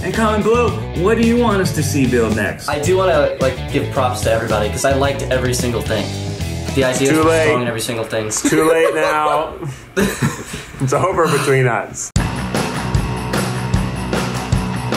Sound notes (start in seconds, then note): 8.4 laughs; 12.1 upbeat music